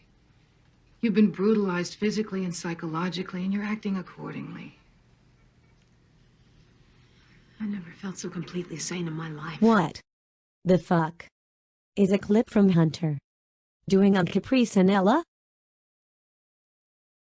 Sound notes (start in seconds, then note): 7.8 on TV